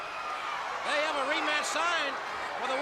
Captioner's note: crowd cheering